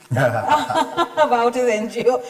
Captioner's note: laughter